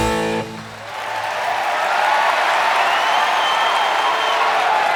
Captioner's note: crowd cheering and clapping